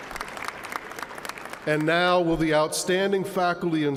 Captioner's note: applause